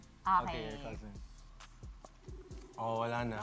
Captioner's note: kring; line ringing